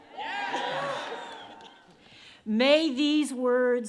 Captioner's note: audience responds